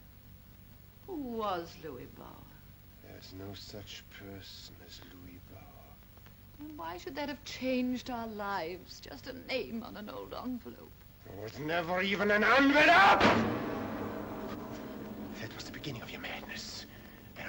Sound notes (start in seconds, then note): 11.6 yells; 12.2 picture smashes